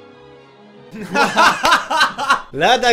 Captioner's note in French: Rires